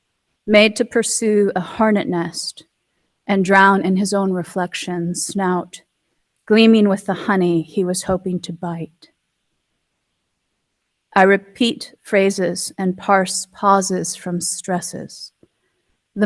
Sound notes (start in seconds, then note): none